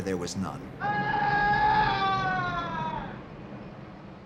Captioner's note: man screams